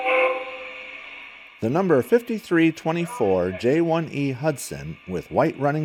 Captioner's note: voiceover